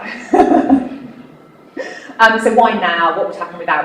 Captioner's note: laughing